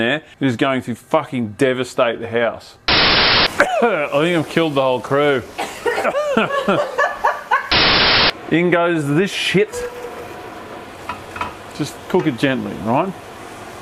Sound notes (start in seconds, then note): 5.6 cough; 5.6 background coughing and laughing